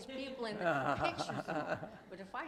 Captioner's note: host chuckles; chuckles